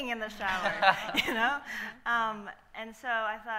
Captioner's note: panel laughing